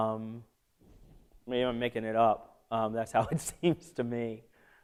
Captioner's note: laughter